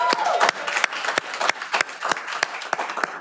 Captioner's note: cheering